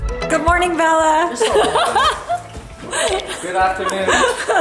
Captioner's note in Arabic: يضحك